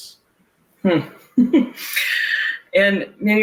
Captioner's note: laughs